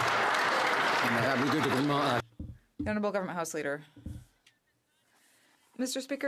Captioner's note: some Applause